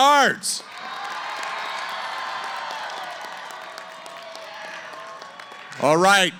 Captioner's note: cheering & Applause